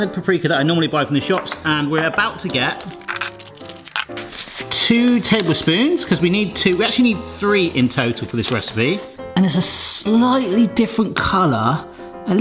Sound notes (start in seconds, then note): 3.4 high speed rustling